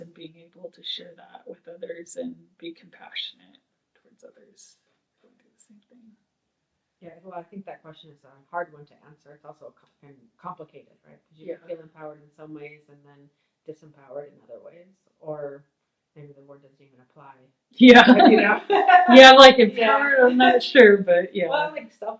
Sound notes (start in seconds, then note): 17.9 laughs